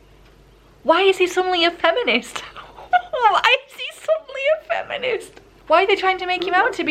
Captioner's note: laughs in 'wtf is going on'